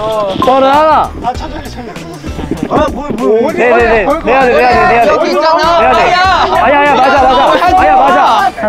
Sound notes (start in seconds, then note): 2.0 hesitant